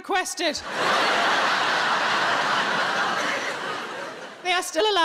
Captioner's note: audience laughs